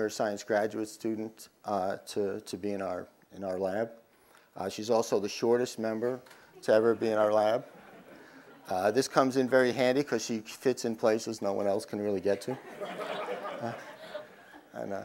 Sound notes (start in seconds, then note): 6.6 laugh; 12.2 crowd laughs